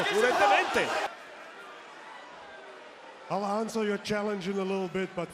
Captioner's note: applause